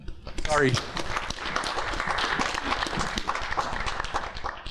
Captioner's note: applause